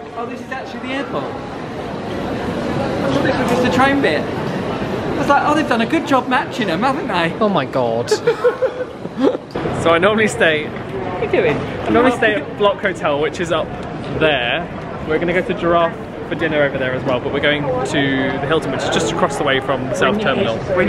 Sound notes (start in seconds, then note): 8.0 laughing